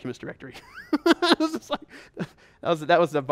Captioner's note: laughs